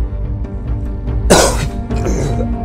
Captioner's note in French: Tousse